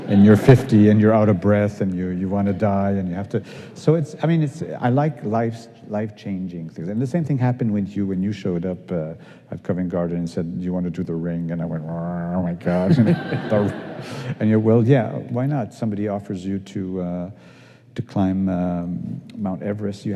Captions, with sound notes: And you're 50, and you're out of breath, and you want to die, and you have to-- so, it's, I mean, I like life life changing things. And the same thing happened with you when you showed up at Covent Garden and said, you want to do the Ring? And I went, [GROANS] oh, my gosh. And you're, well, yeah, why not? Somebody offers you to climb Mount Everest,